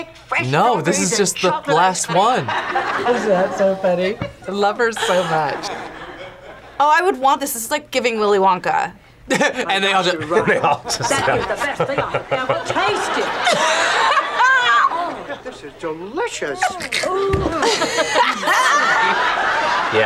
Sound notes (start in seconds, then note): 10.2 laughs; 13.3 both laugh